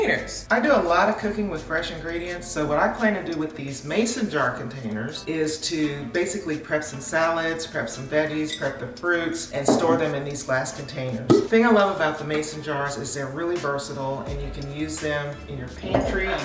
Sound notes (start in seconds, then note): 11.3 jar pops